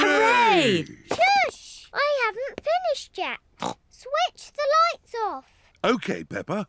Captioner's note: snorts